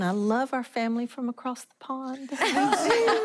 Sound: laughing

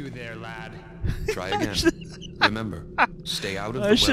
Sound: laughs

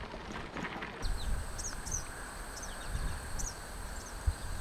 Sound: birds chirping

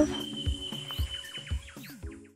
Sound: birds chirping

